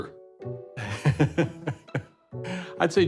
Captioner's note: laughter